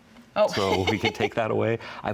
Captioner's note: laughter